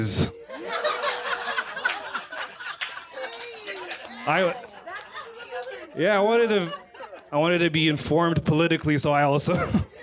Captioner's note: laughter